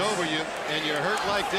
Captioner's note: crowd cheering